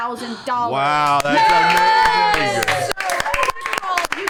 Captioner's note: cheering